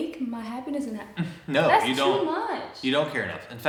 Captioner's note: chuckles